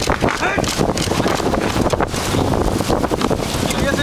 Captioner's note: yelling